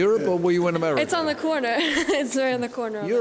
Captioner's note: laughs